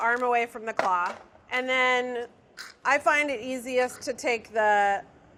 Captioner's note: none